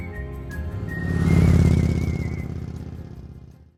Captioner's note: bright music; engine rumbling